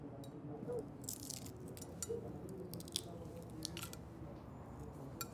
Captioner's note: eggshell cracking